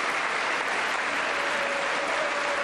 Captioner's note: applause